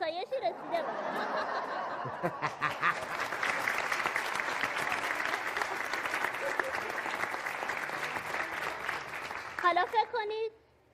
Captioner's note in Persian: خنده